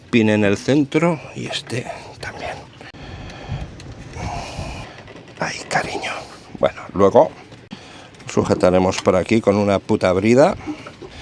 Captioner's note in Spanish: gemido